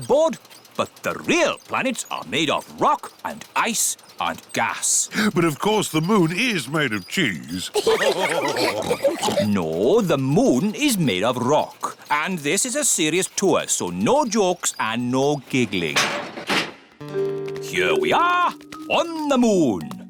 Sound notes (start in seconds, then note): 7.5 all laugh